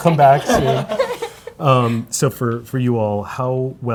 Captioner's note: panel laughs